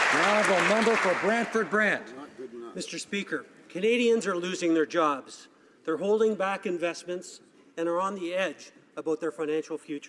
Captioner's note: some Applause